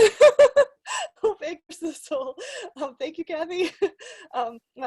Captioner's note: laughing